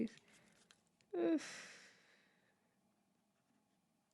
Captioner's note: sighs